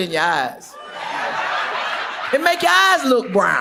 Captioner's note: audience laughs